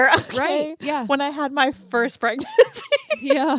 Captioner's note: laughs